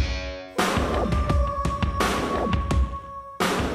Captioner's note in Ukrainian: ще раз виє вовк